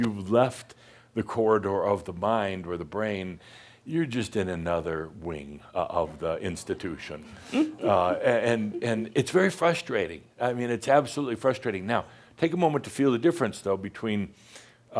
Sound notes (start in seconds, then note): 7.2 she chuckles